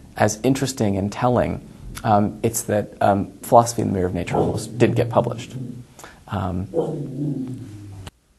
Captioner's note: dog growls